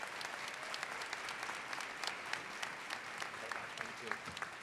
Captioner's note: applause